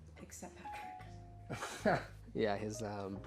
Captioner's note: Louis laughs